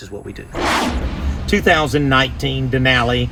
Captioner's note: intense whooshing